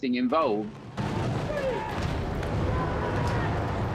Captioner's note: soldiers shouting